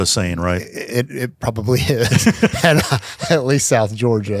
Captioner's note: chuckles